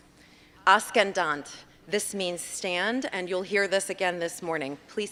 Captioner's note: non-english